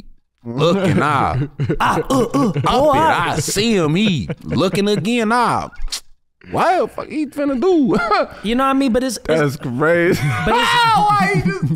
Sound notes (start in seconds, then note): 2.8 grunting; 7.8 chuckles